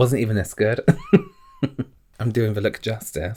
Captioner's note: laughs